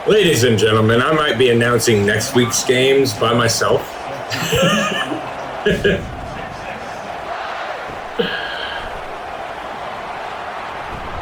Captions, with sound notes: Ladies and gentlemen, I might be announcing next week's games by myself. [LAUGH] [Crowd Noises]